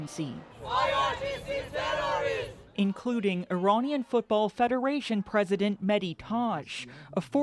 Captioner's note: chanting